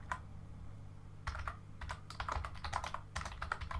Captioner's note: keyboard typing